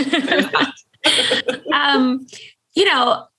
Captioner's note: laughing